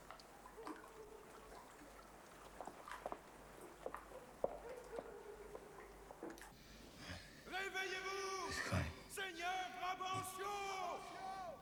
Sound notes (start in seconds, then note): 5.9 muttering